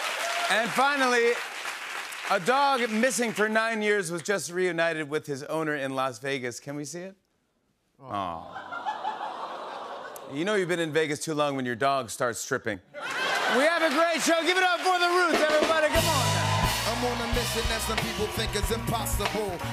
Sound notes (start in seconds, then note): 0.0 laughter and applause; 8.1 all "aww"